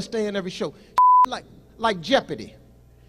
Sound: beep

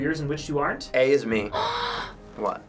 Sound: gasps

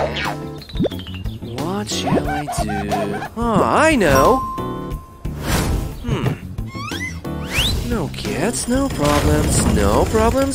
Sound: murmuring

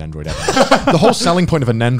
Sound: laughs

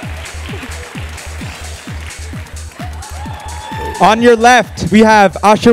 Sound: applause

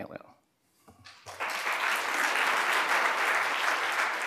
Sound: applause

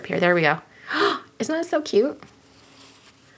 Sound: gasps

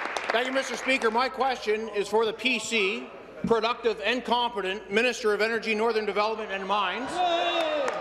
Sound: applause

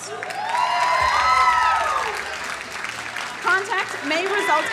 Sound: crowd cheering and applauding

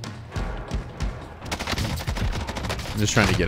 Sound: gunshots

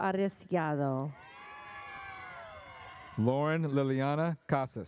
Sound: audience cheers

